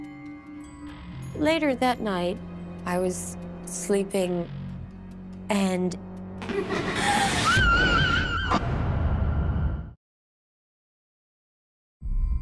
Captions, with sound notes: Later that night, I was sleeping and-- [laughing] [scream]